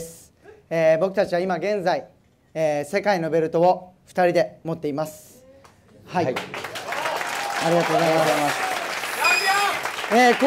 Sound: applause

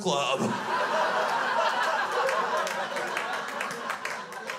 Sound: crowd laughs

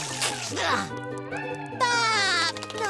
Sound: laughing

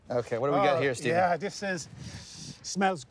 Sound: sniffing

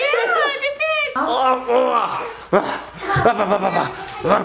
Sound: grunting

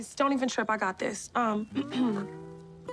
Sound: clears throat

